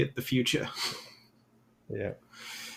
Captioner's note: chuckles